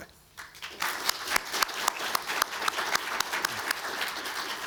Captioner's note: audience applauding